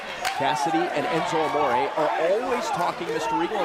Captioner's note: crowd chatter